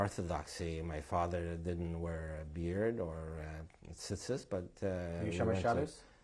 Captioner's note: non-english